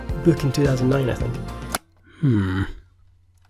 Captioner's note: remote click